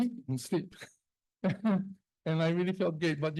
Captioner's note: chuckles